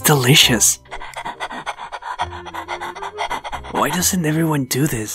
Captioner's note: hungry panting